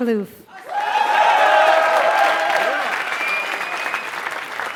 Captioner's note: applause